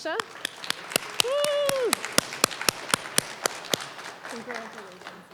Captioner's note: applause, cheering